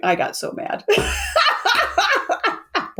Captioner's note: laughs